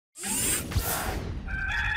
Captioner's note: mechanical whirring; rooster crowing